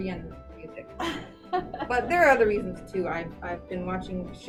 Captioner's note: laughs